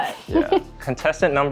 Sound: laughs

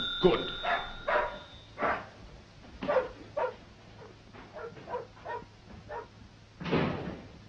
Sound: phone rings; dog barks

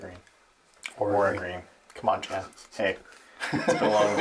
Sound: chuckles

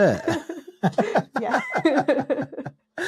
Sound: laughing

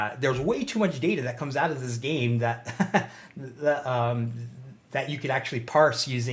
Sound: chuckles

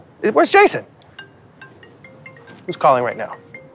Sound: phone ringing

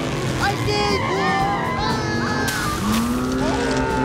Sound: screaming

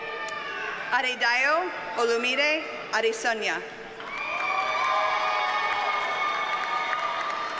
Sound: audience cheers and applauds

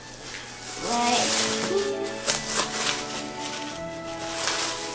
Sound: polythene crackling

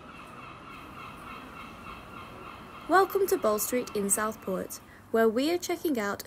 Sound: sound of Seagulls

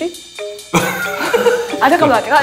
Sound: laughing

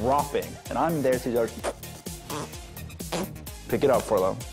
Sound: squishing noises

